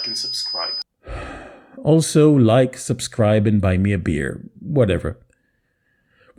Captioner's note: sigh